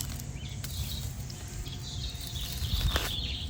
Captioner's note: nats digging